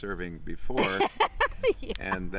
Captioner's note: laughing